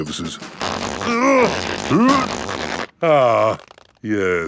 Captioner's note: grunting